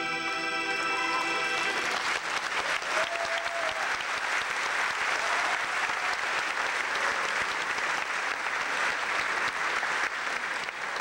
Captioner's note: clapping